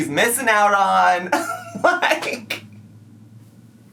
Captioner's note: laughing